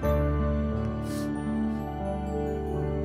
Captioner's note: Sniffs